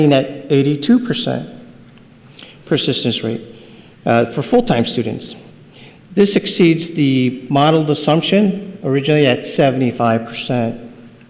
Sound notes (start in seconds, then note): none